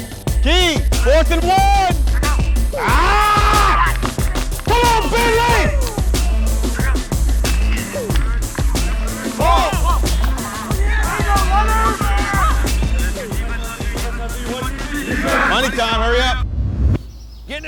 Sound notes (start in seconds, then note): 2.7 screaming; 7.7 pads hitting